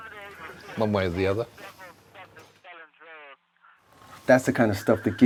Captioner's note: radio chattering